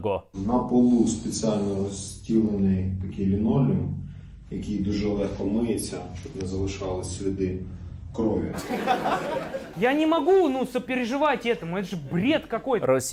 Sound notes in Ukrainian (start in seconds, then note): 8.6 сміх